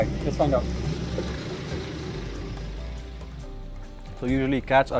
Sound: tires driving over mud; instrumental music

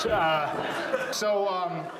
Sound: audience laughs

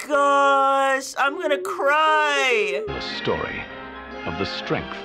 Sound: voice-over

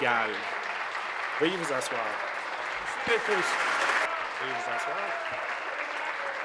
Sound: applause

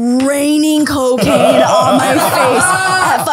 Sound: all laughing

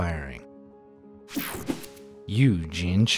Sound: graphic whooshing

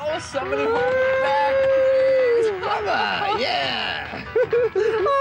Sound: hooting and hollering

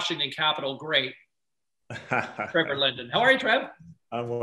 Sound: laughs

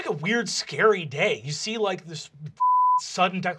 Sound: beeping

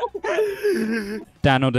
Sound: slight laughter

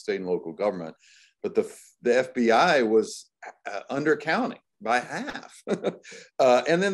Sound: chuckles

